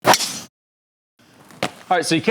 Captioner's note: club thwacking golf ball